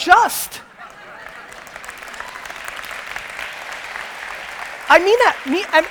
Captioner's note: audience applause